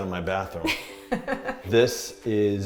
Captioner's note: laughing